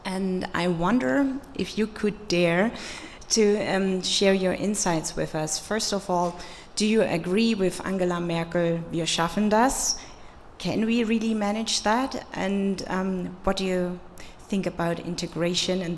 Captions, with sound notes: And I wonder if you could dare to share your insights with us. First of all, do you agree with Angela Merkel (speaking foreign language)? Can we really manage that? And what do you think about integration